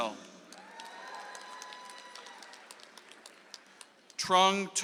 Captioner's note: audience applauds